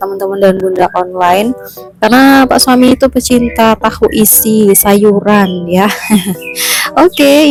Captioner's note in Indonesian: tertawa